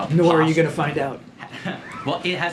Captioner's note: laughter